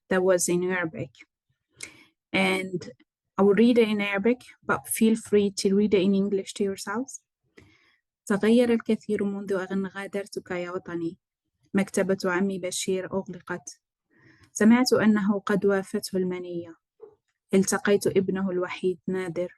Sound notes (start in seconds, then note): 8.3 speaking arabic